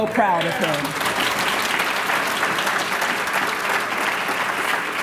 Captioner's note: applause